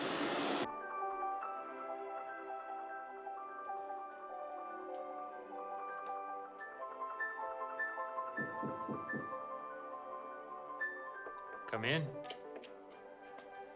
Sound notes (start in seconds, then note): 0.5 classical; 8.4 knock At Door